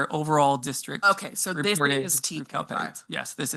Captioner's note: speaks faintly